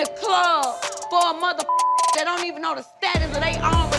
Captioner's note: beep